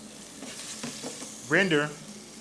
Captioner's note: bacon sizzles